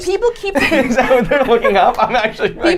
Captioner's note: laughing